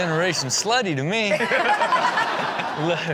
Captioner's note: everyone laughs